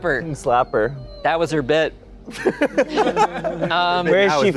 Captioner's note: laughing